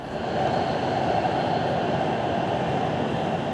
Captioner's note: wheels rumbling